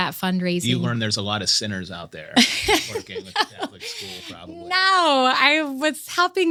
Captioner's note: laughter